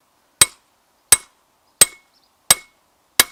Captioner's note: peening